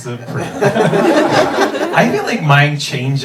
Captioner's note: audience laughing